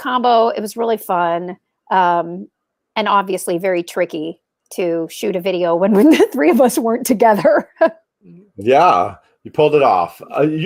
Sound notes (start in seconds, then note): 7.4 Laura laughs